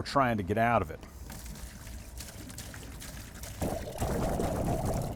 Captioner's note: water splashing